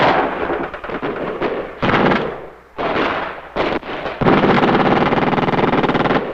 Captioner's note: explosions booming; guns blasting